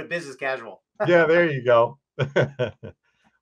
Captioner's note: laughs